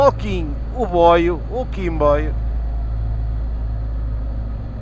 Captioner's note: train